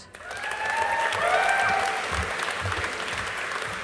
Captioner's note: audience applauding